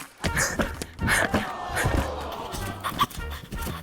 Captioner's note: audience exclaims